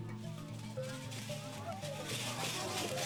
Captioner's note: percussive rattle; tribal chanting